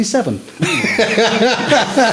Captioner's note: laughing